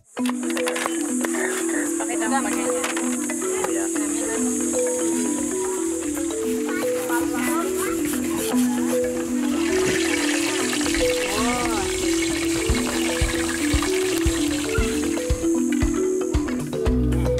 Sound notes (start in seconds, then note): 0.3 distant chatter; 0.3 serene music; 9.4 sizzling